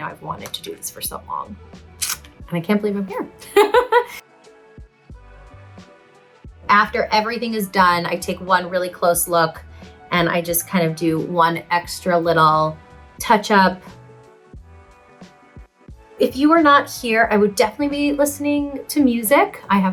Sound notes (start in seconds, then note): 3.4 Lea laughs; 5.4 soft upbeat music